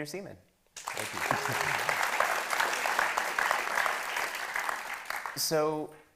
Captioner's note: attendees clapping